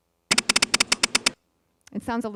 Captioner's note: beeping